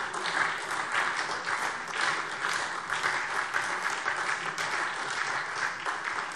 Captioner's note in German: Beifall SPD